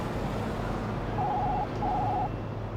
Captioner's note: phone ringing